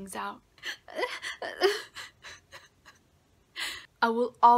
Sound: sobbing

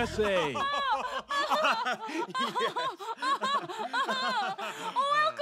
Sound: laughter

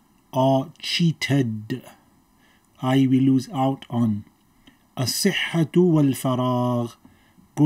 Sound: Arabic

